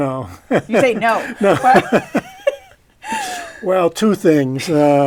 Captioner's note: laughter